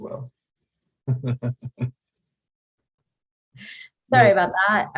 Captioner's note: laughs